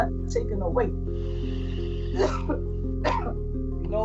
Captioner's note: coughs